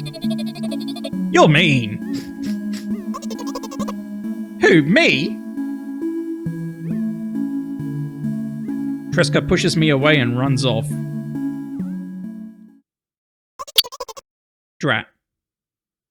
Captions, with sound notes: You're mean [sniffles] Who me? Treska pushes me away and runs off Drat.